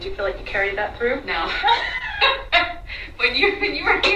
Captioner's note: laughs